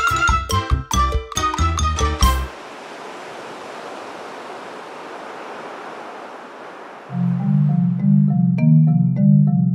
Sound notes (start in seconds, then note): 2.1 ocean sounds